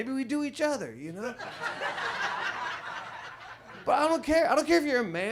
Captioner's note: audience laughs